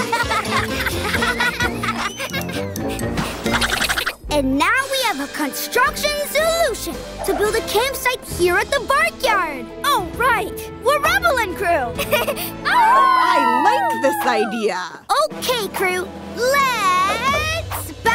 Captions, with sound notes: [laughing] [squeaking] And now we have a construction solution to build a campsite here at the barkyard. All right, we're Rubble and crew! [chuckles] [howling] -I like this idea. -Okay crew!